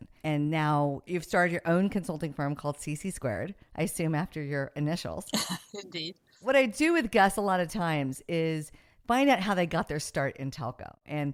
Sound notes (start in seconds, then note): 5.3 laughs